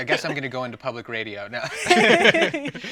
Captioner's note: laughing